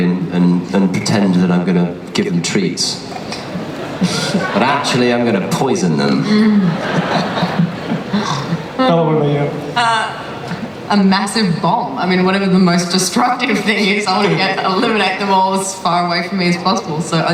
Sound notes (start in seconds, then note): 6.8 audience laughter